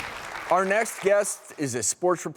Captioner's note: audience applauding